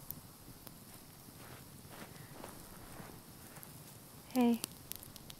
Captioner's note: footsteps pattering